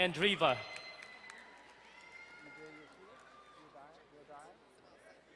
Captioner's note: distant cheering